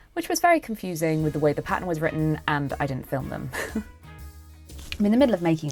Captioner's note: chuckles